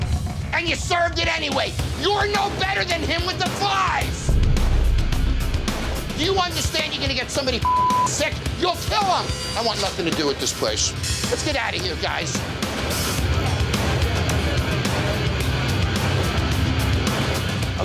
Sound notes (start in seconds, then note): 4.7 intense music continues; 7.6 beep; 14.1 intense music continues